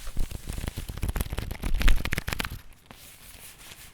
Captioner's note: cards rustling